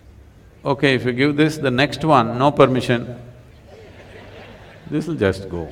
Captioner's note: laughter